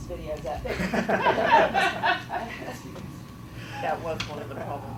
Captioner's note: audience laughing